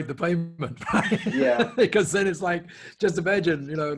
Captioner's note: laughs